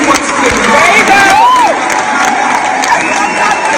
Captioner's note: crowd cheering